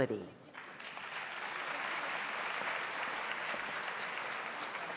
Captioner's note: audience applauds